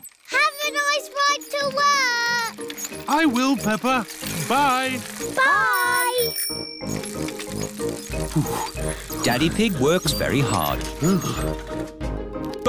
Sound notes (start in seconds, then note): 5.5 bell rings; 8.3 panting